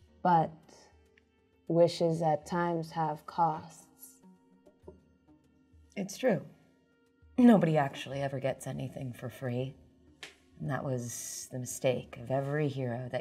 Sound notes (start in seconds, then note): none